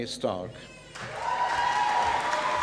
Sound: applause

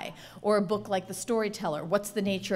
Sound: none

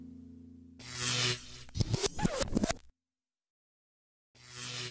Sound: electric static

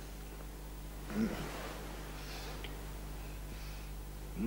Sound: grunts

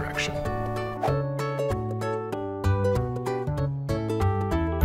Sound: bright music; image whooshing

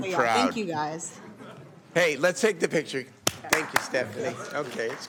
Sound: applause

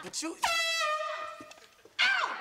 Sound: foghorn blowing

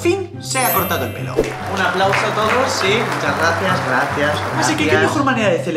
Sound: applause

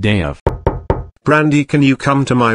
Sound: knock

